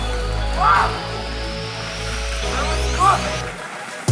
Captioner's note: shouting